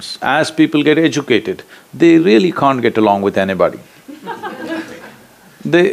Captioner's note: laughter; 笑聲